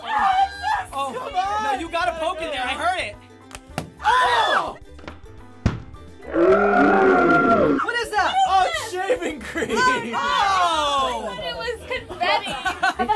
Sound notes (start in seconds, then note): 5.2 popping in slow-mo; 5.6 balloon popping; 6.3 screaming in slow-mo